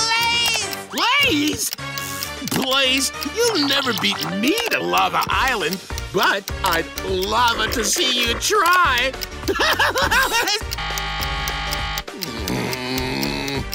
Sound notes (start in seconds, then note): 9.4 laughing